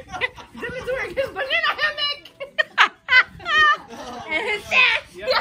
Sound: laughing; laughing

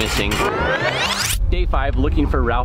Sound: tape whirring

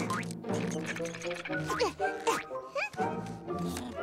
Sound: grunting

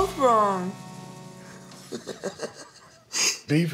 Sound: laughs

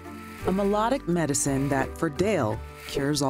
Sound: voiceover

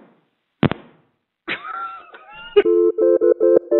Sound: laughter

